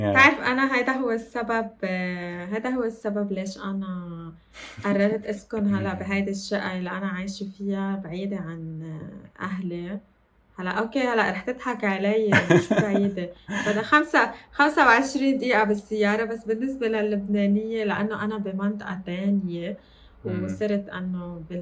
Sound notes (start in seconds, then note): 12.3 laughs